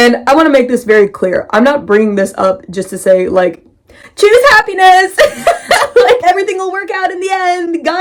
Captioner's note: upbeat music; mocking tone